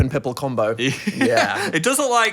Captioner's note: laughs